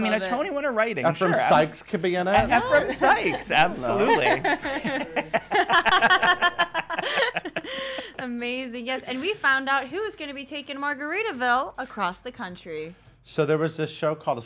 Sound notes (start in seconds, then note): 2.4 laughs; 4.5 laugh